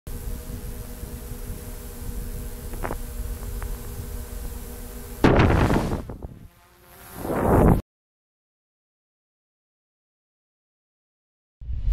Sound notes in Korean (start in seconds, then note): 2.6 헬리켐 소리